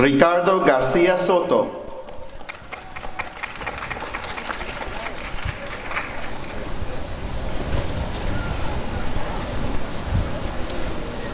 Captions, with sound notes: Ricardo Garcia-Soto [applause and cheering]